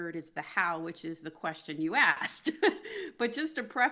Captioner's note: laughs